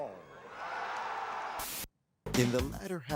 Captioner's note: crowd cheers